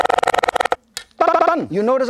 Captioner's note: knife cutting shallots machine-gun style